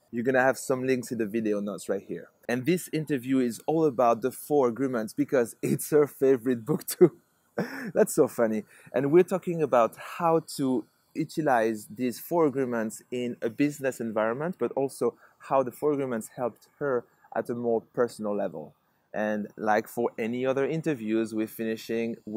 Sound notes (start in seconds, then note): 7.6 laughs